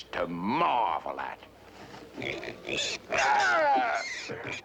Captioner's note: squealing